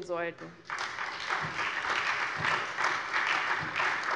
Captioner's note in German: Beifall SPD